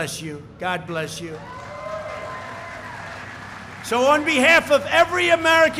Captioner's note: applause